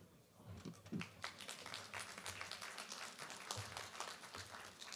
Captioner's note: applause